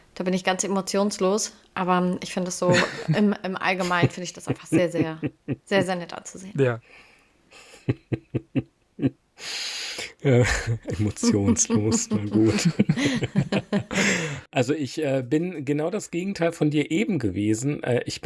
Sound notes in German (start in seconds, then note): 7.6 gelächter; 9.1 schnauben; 10.4 gelächter